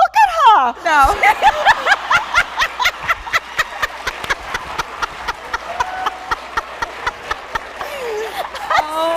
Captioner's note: laughs